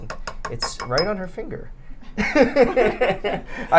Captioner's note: laughter